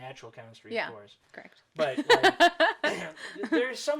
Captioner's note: laughs